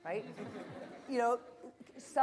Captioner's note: audience laughter